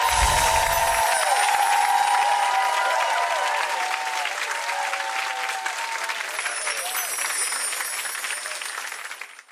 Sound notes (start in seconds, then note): 0.0 chimes ringing; 1.8 audience clapping; 6.3 chimes ringing